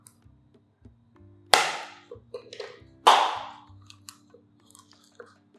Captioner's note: pop sound